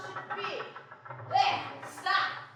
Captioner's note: rattling stops